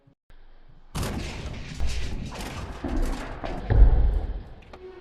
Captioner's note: door Crashes Open